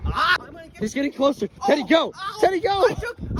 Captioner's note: groans in disbelief